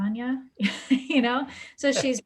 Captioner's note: laughs